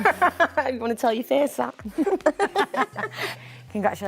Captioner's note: Jodie and Mandip laugh